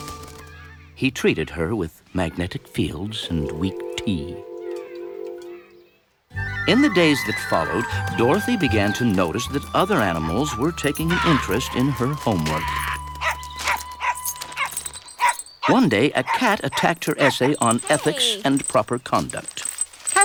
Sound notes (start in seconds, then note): 13.2 barking